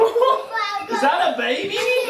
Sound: laughing

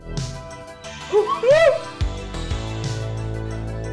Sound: whooping laugh

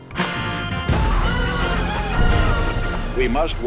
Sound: explosions

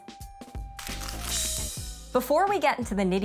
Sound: graphics crinkling

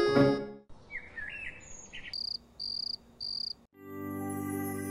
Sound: birds chirping

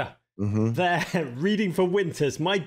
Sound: chuckles

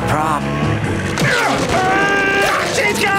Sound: grunting

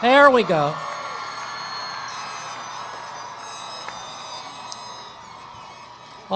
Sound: cheering

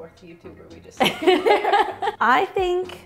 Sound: laughs

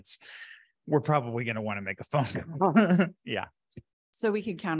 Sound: laughs

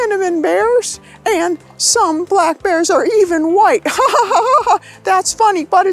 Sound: laughs

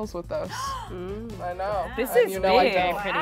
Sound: gasps

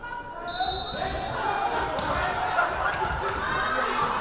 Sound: whistle blaring

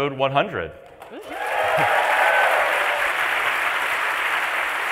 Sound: applause

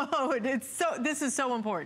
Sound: laughter

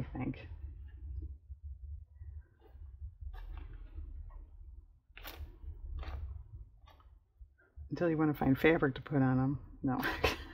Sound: laughs

